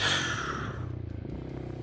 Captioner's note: sighs